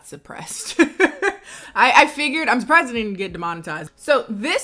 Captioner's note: laughs